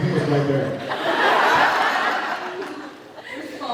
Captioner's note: laughs